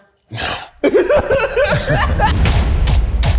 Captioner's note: laughing; upbeat music